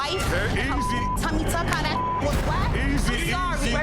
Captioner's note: beep